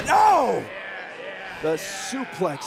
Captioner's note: crowd chatter